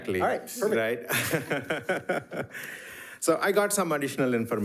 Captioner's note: laughs